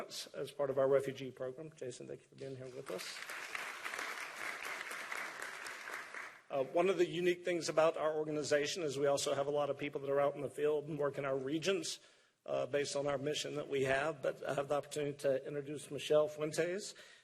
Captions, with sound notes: OUR REFUGEE PROGRAM. [APPLAUSE] ONE OF THE UNIQUE THINGS ABOUT OUR ORGANIZATION IS WE ALSO HAVE A LOT OF PEOPLE THAT ARE OUT IN THE FIELD AND WORK IN OUR REGIONS, BASED ON OUR MISSION THAT WE HAVE, BUT I HAVE THE OPPORTUNITY INTRODUCE MICHELLE